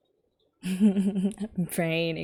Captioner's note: laughs